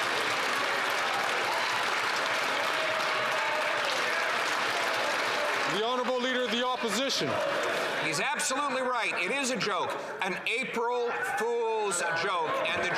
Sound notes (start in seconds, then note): 6.3 some Applause